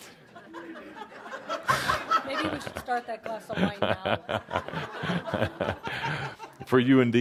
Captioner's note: laughter